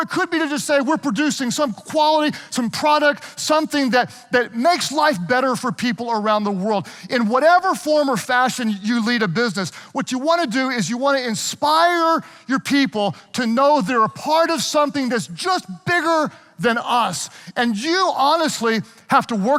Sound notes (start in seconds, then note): none